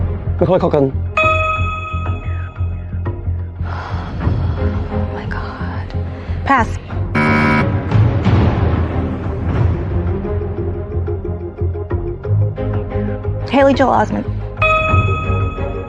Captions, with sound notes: Macaulay Culkin. (SIGHS) (WHISPERS) My God... -Pass. -(BUZZER SOUNDS) Haley Joel Osment.